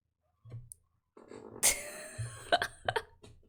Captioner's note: laughs